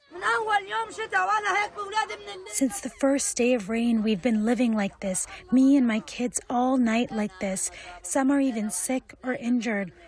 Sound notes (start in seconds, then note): 2.4 through translator